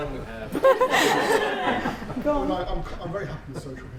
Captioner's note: laughter